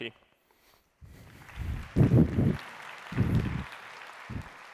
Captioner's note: applause